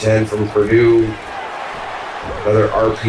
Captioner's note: crowd Noises